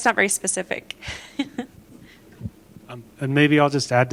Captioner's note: laughter